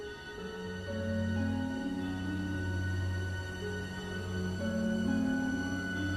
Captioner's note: distant bell tolls